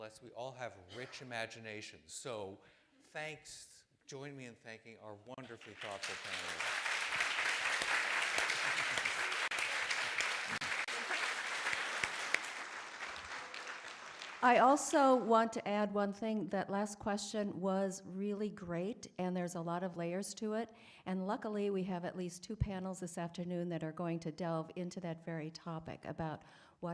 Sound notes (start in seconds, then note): 8.4 applause